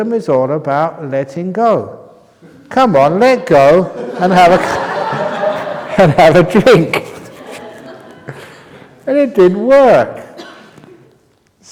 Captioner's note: laughter